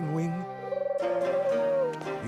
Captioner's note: Pingwing cooing